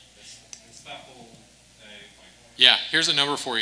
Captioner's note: speaks faintly